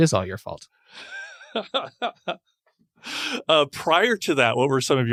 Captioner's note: laughing